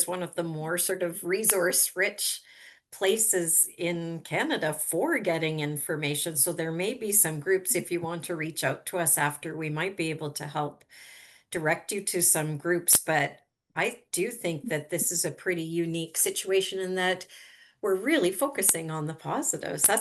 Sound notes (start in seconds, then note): none